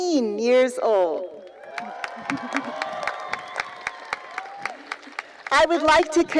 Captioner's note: cheering and applause continue